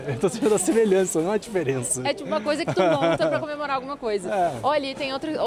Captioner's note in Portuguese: risadas